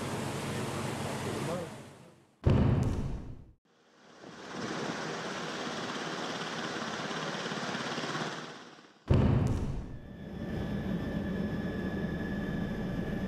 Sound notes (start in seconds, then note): 2.4 crash, sound of helicopter rotor; 9.2 crash, sound of helicopter in flight